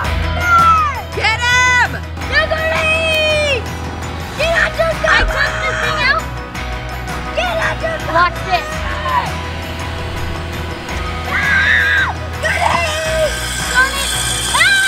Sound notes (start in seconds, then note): 2.9 screaming; 11.2 screaming